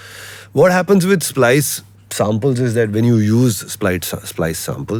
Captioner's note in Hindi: नाक से की जाने वाली आवाज़